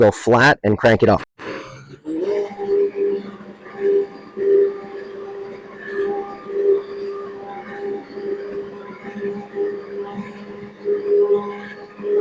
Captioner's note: immersion blender churning